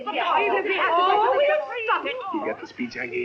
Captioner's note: chattering